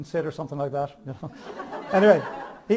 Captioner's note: audience laughs